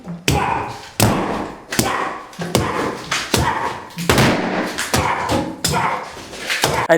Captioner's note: hammer banging; grunting